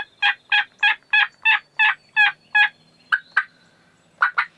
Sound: birds chirping; turkey yelping

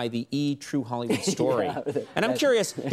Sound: giggles

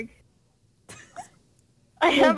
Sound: giggles

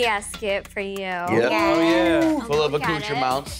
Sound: Vinny cheering

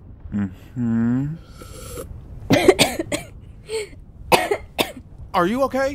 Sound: hayden takes a sip, chokes

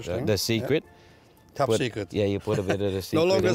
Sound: laughs; laughter

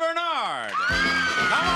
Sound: audience cheering

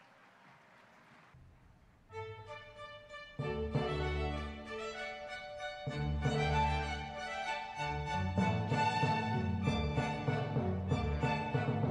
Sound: applause, music throughout

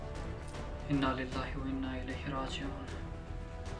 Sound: recites prayer

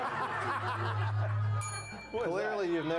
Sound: laughter; bell rings

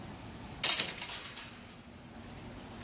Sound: gate Closes

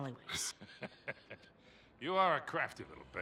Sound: laughs

